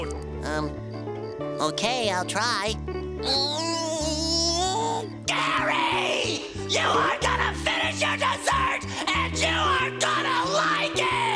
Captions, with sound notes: Um, okay, I'll try. [grunting] Gary, you are gonna finish your dessert and you are gonna like it!